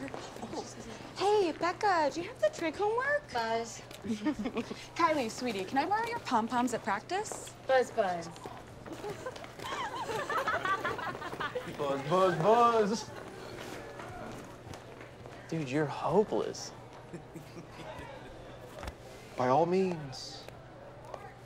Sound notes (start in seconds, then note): 4.0 both chuckle; 8.9 both laughing